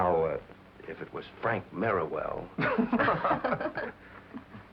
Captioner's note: laughter